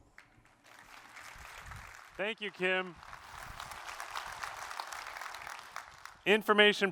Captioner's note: applause